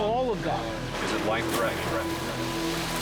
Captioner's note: water splashes; tense music